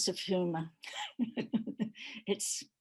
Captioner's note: laughter